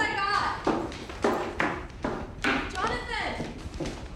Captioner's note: footsteps clomping